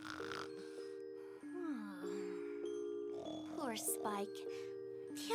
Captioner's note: snoring